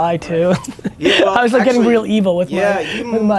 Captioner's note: laughs